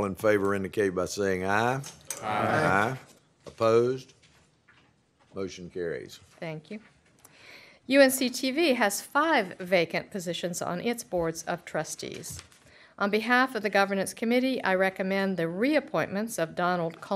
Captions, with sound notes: ANY DISCUSSION? IF NOT, ALL IN FAVOR INDICATE BY SAYING AYE [CHORUS OF AYES] >> OPPOSED? MOTION CARRIES. >> THANK YOU. UNC-TV HAS FIVE VACANT POSITIONS ON ITS BOARDS OF TRUSTEES.